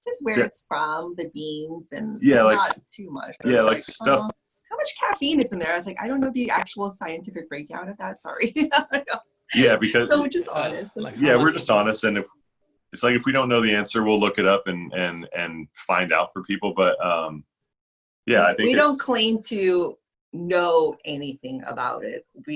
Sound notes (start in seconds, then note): 9.5 laughs